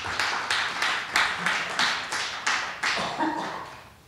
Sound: applause

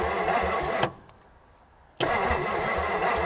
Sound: vehicle engine stops; vehicle engine humming

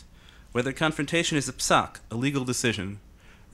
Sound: speaking in foreign language

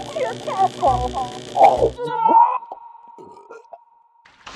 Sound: chomp!; WISDOM grunts and is then silenced; burp

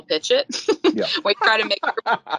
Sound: both laughing

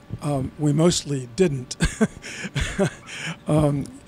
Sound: laughs

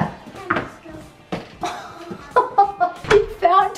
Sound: laughs

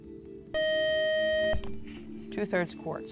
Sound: buzzer

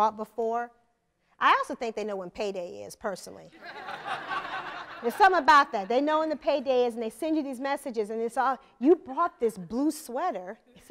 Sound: laughter

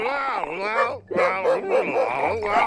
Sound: barking

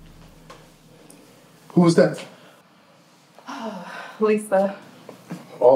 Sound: sighs

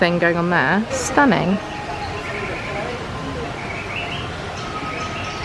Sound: birds chirping

